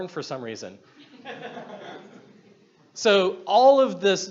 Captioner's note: audience laughs